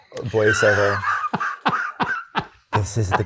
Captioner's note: guy laughing